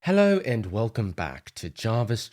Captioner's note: In a British accent